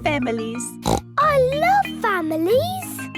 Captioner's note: snorts